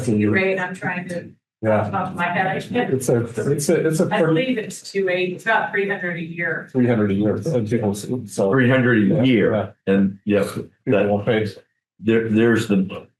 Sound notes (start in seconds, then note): 6.7 people chattering indistinctly